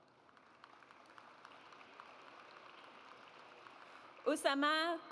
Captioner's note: audience applauds